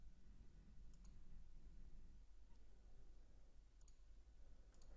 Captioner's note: mouse clicking